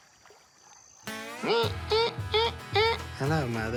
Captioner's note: imitates psycho theme